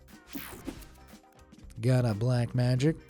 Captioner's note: screen whooshing